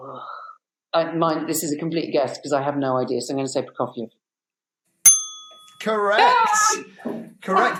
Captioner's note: bell dings